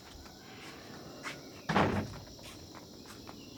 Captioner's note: someone closes the door